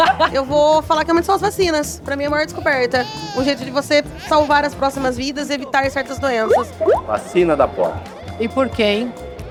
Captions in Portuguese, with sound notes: Eu vou falar que é uma de suas vacinas. -Pra mim, é a maior descoberta. -[bebê chora] O jeito de salvar as próximas vidas e evitar certas doenças. -[efeito de gota] -Vacina da pólio. E por que, hein?